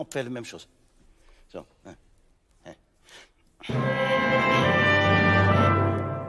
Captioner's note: orchestral music; speaking in French